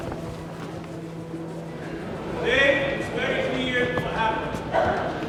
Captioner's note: speaking English